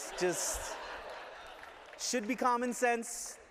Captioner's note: laughter